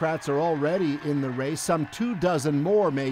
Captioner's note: cheers and Applause